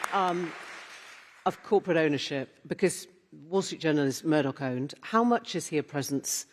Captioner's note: applause